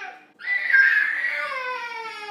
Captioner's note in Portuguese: gritinhos de criança